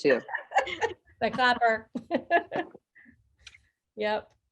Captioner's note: all laughing